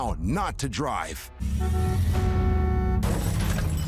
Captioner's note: car horn honks